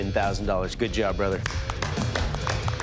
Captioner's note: applause